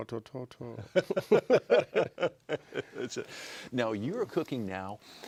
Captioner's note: laughter